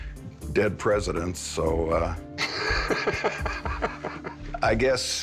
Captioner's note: laughing